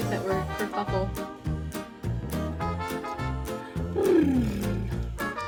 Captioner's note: making noises with mouths